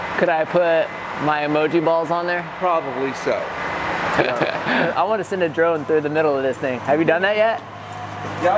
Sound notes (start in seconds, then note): 4.1 laughter